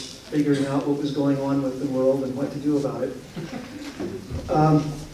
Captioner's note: laughter